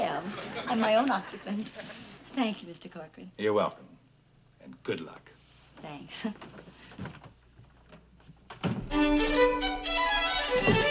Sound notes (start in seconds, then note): 0.3 chuckles; 5.9 chuckles